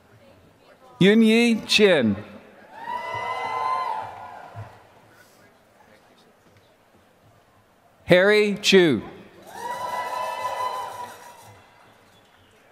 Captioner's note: applause